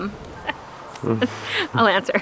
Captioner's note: chuckling